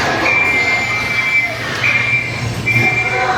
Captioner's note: whistle